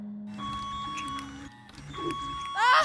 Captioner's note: beeping